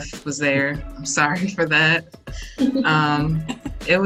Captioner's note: chuckles